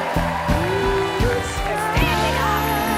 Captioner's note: cheers and applause